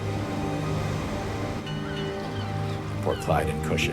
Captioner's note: water rushing